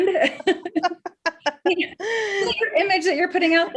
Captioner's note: laughs